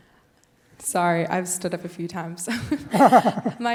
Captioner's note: laugh